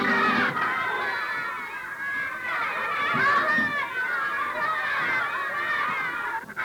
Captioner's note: flamenco music playing; children yelling